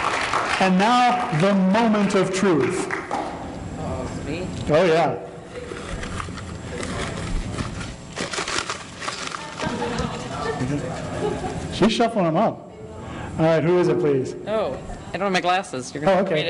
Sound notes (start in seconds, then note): 0.0 applause; 5.6 crinkling of papers in the prize drawing container